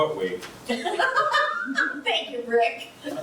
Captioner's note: laughs